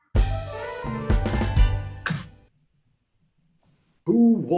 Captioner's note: clap